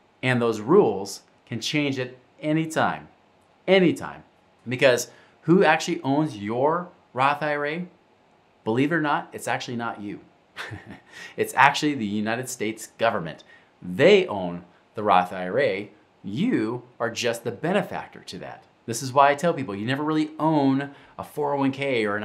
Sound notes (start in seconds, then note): 10.5 chuckles